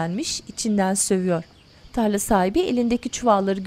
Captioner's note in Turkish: Kuş cıvıltısı sesleri